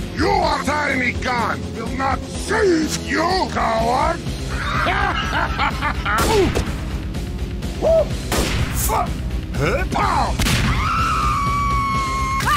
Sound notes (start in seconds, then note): 4.5 laughter; 10.4 explosion; 10.6 screaming